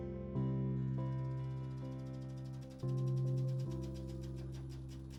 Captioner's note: film reel flapping